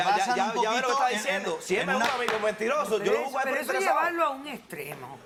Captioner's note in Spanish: Hablan al unísono